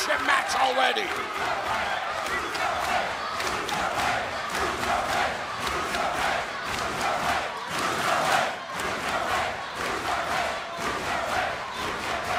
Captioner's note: crowd cheering